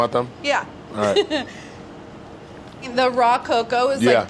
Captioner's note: laughs